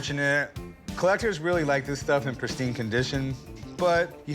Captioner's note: none